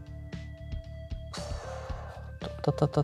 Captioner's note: blows air